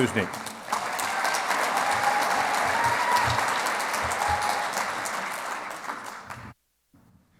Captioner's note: clapping